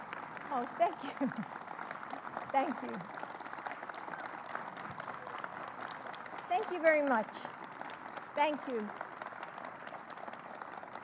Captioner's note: applause